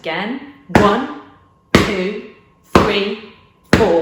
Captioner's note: hard slap